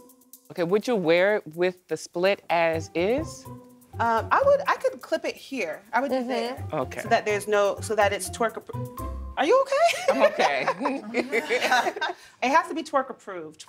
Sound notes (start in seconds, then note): 9.8 laughter; 9.9 laughing